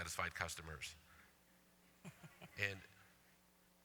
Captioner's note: laughter